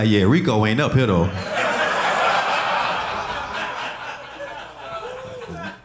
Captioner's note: audience laughing